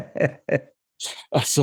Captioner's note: laughs